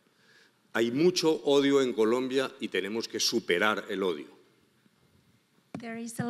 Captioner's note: speaking in foreign language